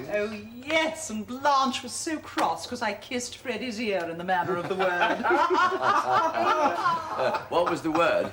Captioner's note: ALL the Blisses laugh heartily